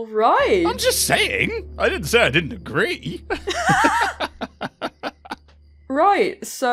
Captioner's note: chuckles; laughter